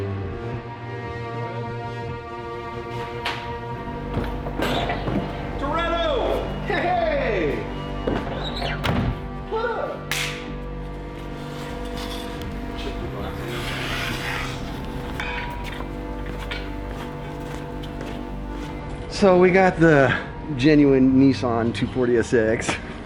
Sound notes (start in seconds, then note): 0.1 dramatic music; 11.2 scraping; 17.6 dramatic music